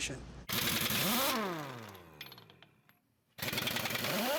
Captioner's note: hydraulics whirring